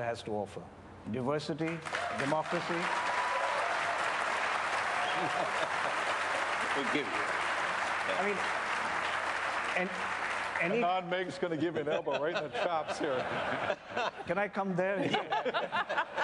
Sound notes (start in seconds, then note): 3.6 applause